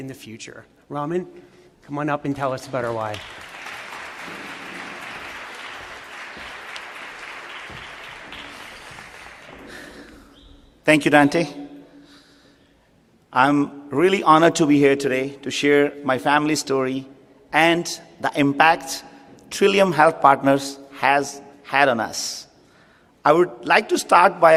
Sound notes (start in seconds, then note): 4.6 applause